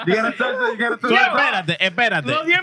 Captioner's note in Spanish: Risas; Hablando portugués